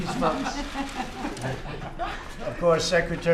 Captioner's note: laughter